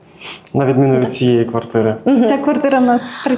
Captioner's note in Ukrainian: сопіння